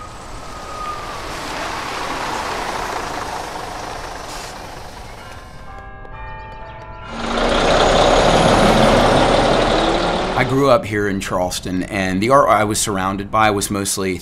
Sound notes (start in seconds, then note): 5.0 church bells ring; 7.0 engine whirring; 10.3 voiceover